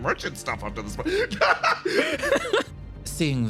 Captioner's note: laughs